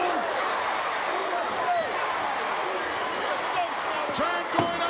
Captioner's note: crowd chants "USA"